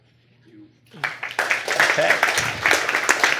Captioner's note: applause